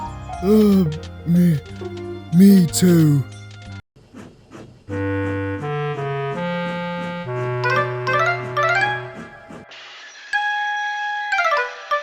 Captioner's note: sneeze